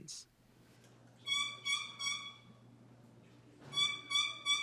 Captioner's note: box call chirps